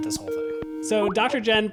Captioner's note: skype ringtone